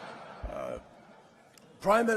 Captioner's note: laughter